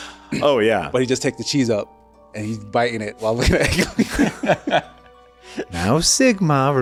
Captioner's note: breaks into laughter